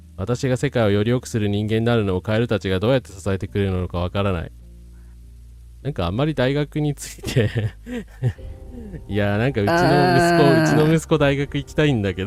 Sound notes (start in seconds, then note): 9.7 laughs